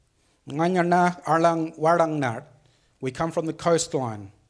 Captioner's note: speaks foreign language